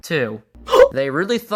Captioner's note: gasp